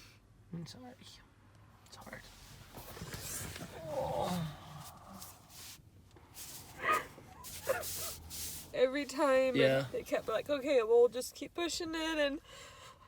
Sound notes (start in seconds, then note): 7.2 sobbing